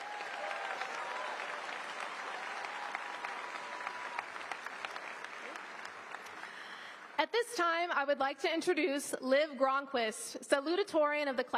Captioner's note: applause